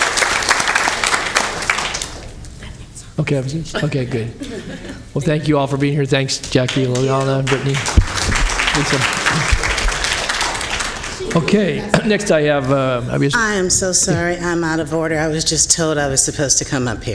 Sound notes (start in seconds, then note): 6.4 APPLAUSE Ux